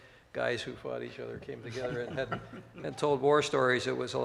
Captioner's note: laughs